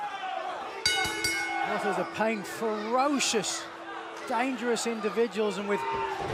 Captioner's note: bell ringing